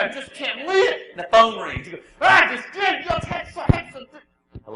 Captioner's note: angry grumbles; calmly